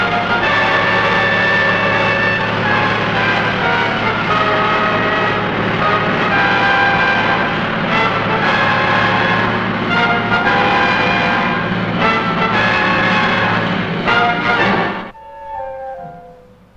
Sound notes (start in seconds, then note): 4.5 dramatic music; 4.5 engine tank roaring